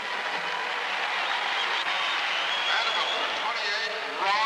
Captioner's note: crowd cheering